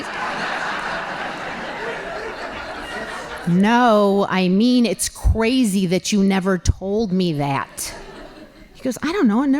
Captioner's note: laughing